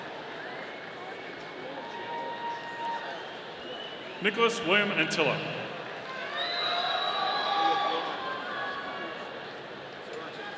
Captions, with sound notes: (audience applauding) Nicolas William Antilla. (audience cheering)